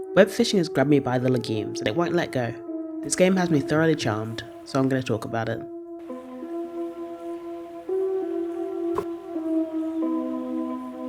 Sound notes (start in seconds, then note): 8.9 sploosh